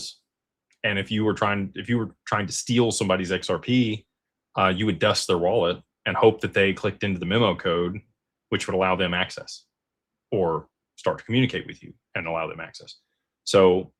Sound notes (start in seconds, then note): none